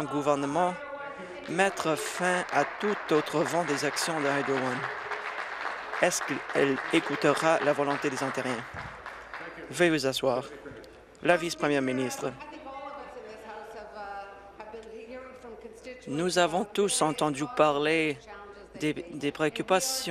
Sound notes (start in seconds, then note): 9.9 applause